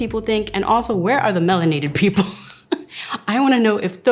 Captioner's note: chuckles